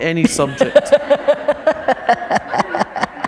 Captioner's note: laughter